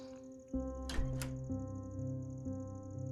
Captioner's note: door opens